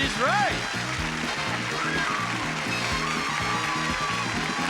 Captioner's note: audience applauding